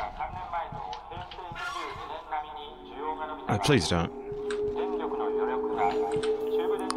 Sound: robot squeal

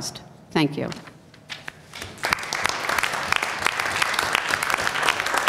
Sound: applause

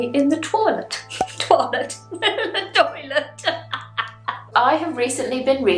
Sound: laughs

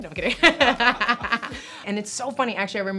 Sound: laughing

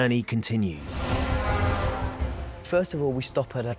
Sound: horn honks

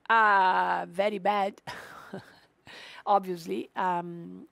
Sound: chuckles

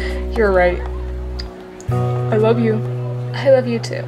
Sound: laughs; kiss

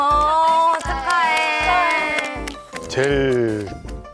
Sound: applauding / applauding

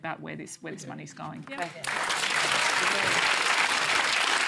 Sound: applause

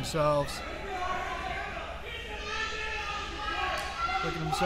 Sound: crowd yelling

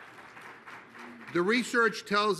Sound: applause

